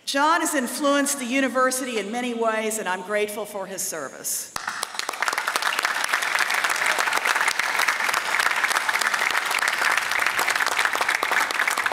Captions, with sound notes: John has influenced the university in many ways and I'm grateful for his service. [APPLAUSE]